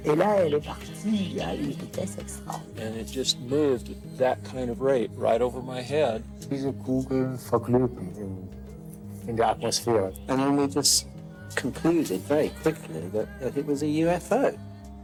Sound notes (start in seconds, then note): 6.6 speaks in foreign language